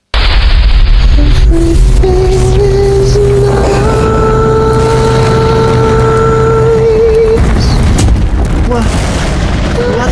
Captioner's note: skull smash